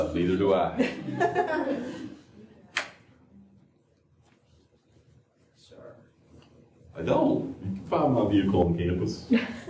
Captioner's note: laughter; laughter